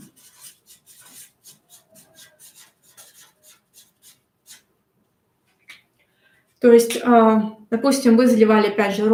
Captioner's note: скрежет маркера